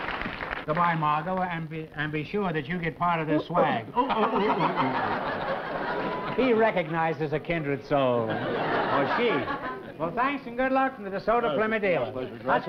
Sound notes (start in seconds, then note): 3.3 groucho hooting; 3.8 margo hooting